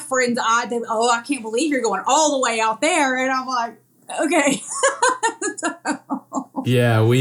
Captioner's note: laugh